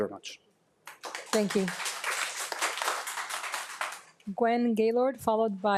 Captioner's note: audience claps